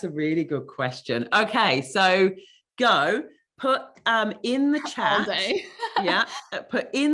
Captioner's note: laughing